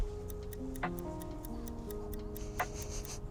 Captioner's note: clock ticking; sniffing